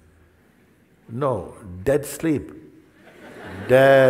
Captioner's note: Lachen